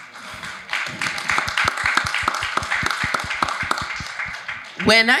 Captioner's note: audience applauding